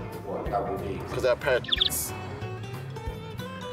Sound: birds chirping

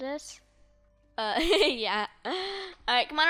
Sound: laughs

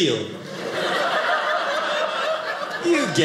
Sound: audience laughing

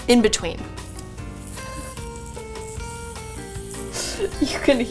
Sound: onions sizzling

